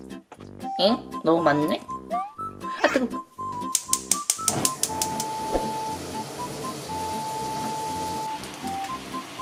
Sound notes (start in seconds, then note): 3.7 click Click Click Click Click Click